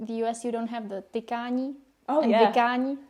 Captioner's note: speaking in a foreign language